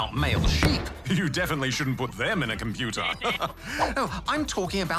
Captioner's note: chuckles